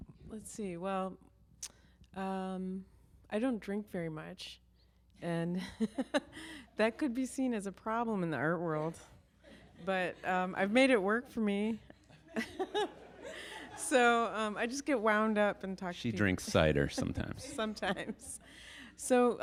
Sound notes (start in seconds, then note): 6.0 chuckles